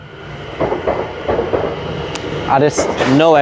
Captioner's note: sound of London Overground train passing